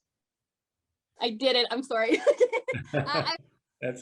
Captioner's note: laughs